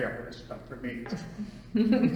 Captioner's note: laughter